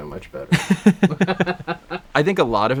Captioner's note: both laughing loudly